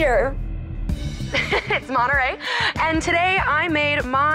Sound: laughing

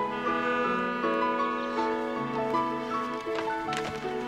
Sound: horn blares

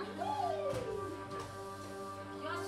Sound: bow squeaks

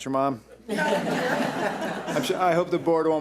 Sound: audience laughs

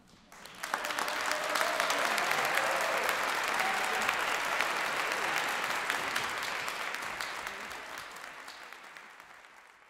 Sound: applause

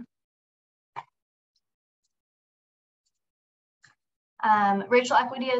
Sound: silence

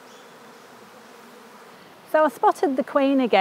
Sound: bees buzz

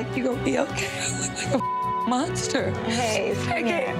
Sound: beep

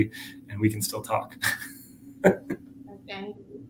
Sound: laughs

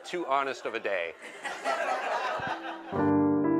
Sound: laughter

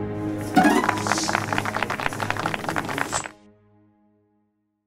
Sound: applause

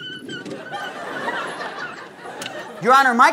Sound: squeaking

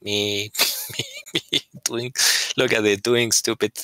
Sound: laughter

